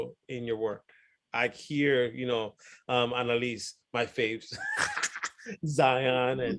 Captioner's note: laughs